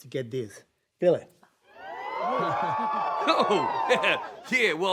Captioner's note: audience cheers